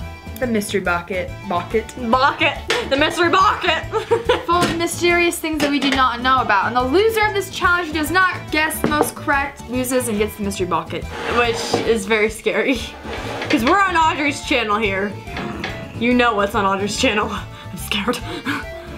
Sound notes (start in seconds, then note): 3.9 laughs; 18.4 laughs